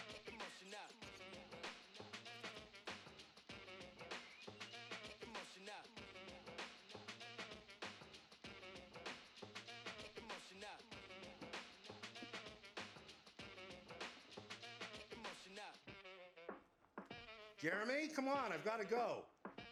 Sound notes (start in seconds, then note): 16.7 knocking